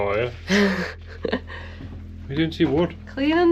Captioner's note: laughs